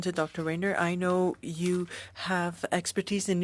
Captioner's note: speaking French